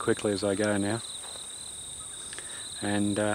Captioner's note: cicadas